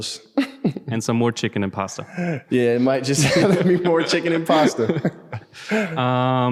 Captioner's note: lacht